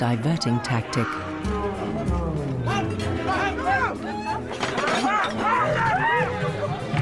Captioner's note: dramatic music; people shouting